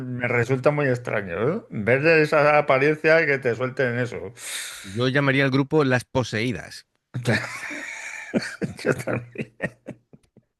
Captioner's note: laughs